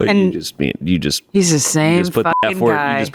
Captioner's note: beep